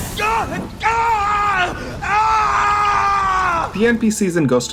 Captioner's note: more screaming